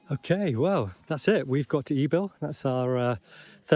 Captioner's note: people chattering